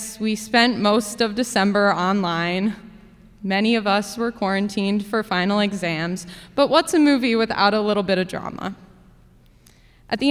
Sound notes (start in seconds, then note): none